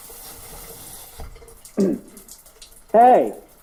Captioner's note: water droplets pattering